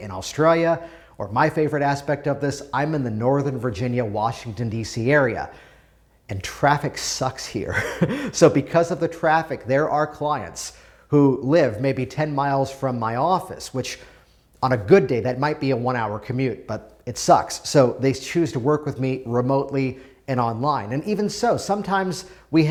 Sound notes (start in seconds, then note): 7.7 laughing